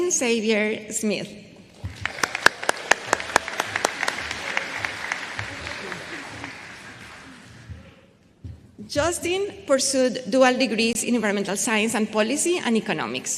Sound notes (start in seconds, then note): 3.4 applause